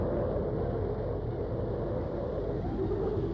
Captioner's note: wind